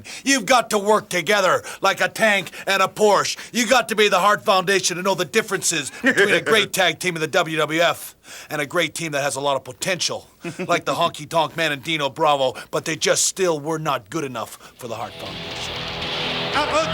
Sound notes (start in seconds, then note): 5.8 Jim chuckling; 10.4 Jim chuckling; 15.1 upbeat music